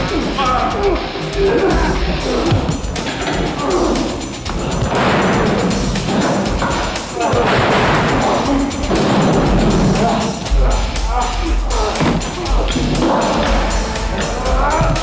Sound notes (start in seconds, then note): 0.0 grunting continues